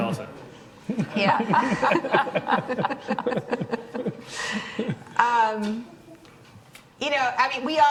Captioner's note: people laughing lightly